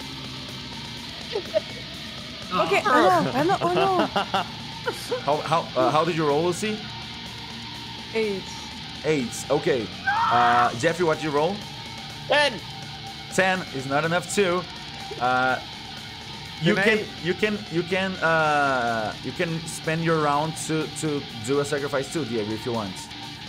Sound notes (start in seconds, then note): 1.3 laughs